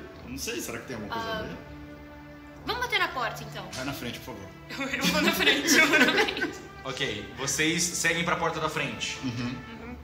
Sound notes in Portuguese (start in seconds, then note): 4.9 risos